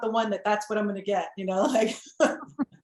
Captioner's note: laughs